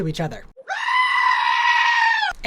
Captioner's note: goat screaming